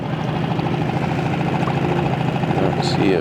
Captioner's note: boat engine humming